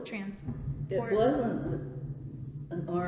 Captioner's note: sound of thunder